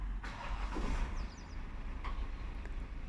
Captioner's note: car starts